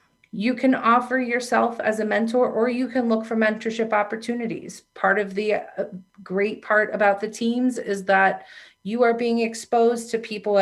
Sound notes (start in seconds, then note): none